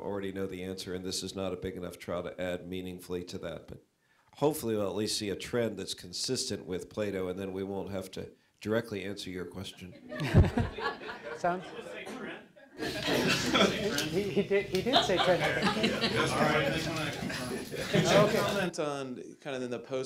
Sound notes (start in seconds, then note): 10.2 audience laughter; 13.1 laughter; 15.8 laughter